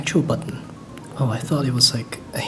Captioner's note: click